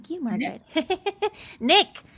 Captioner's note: laughs